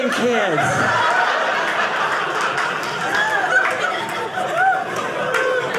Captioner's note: audience laughing